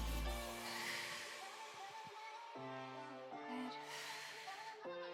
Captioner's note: exhaling